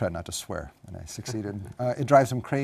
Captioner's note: laugh